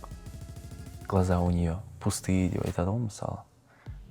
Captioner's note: says in Russian